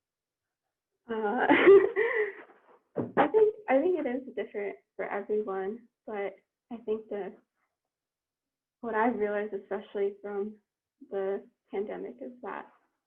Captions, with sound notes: (laughs loudly) - I think it is different for everyone, but I think the, what I've realized, especially from the pandemic is that